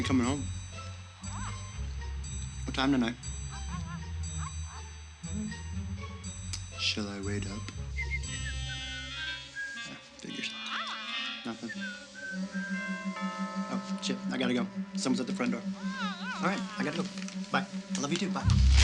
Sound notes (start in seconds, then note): 7.7 whistling; 8.7 light hearted music; 12.4 door bell rings